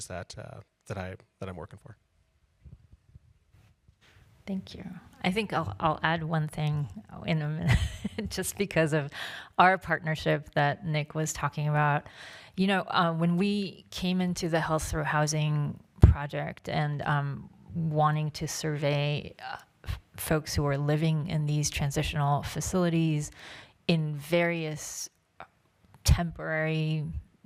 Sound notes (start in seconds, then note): 7.6 laughs